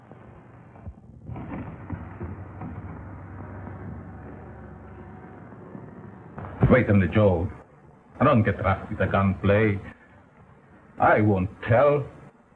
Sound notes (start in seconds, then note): 0.8 footsteps